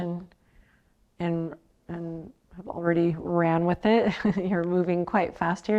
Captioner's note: chuckles